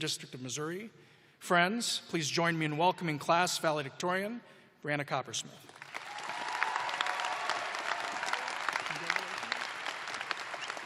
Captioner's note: cheers and applause